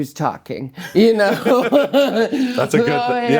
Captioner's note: both laughing